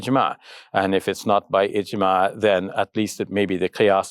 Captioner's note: speaks Arabic